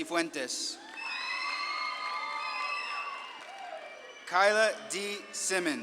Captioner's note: audience claps and cheers